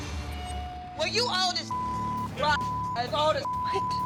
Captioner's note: beep